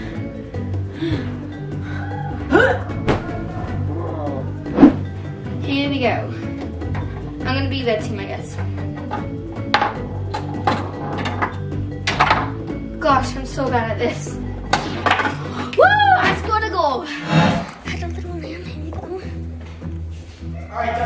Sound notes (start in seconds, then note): 0.9 panting; 10.2 ball rolling